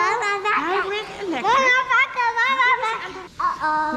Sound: child babbling

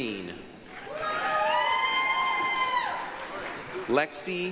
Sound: applause, cheering

